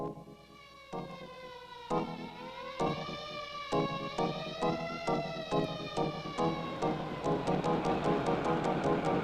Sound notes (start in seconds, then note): 1.9 sirens wailing